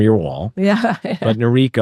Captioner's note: laughs